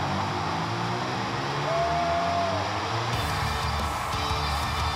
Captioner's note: applause